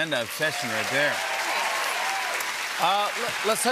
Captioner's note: cheers and applause